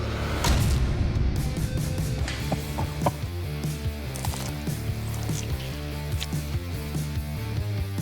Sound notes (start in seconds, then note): 2.4 laughing